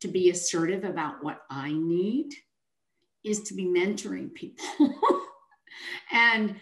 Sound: chuckles

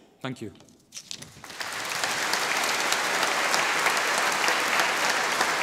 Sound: audience applauding

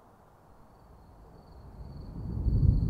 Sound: insects chirping; thunder rumbles

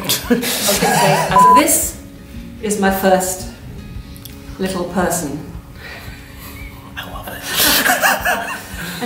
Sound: laughter; laughter

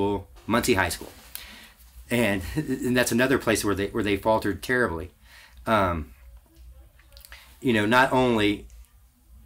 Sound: laughs

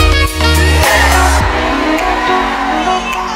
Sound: crowd

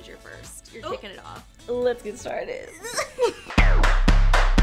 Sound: girls laughing; upbeat music

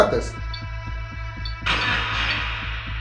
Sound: device beeping; radio noise reverberating

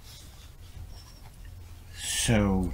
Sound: pen etching

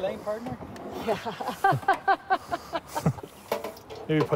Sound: interviewer laughing

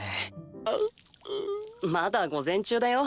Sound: crying

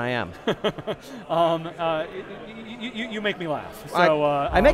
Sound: laughing

